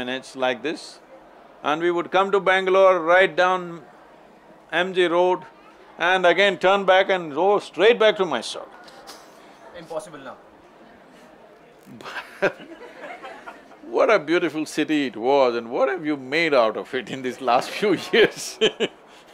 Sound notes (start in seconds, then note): 11.9 Sadhguru laughs; 18.7 laughs